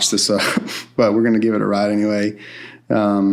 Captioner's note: laughs